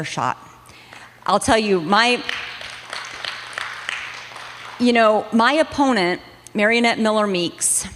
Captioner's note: applause